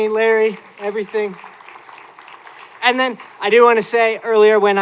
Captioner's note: applause